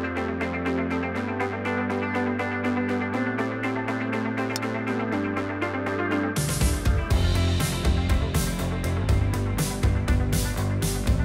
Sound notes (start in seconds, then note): 4.2 golf club wack; 7.5 upbeat instrumental music